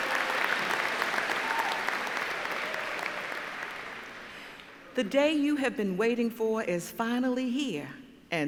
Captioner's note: applause